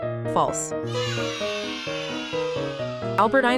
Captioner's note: children cheering